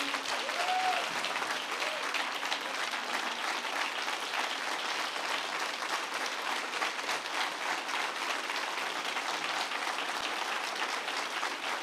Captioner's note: applause